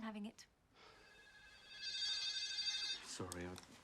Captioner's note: ringing